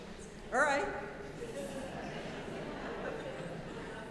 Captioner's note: audience laughing